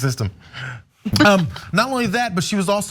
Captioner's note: laugh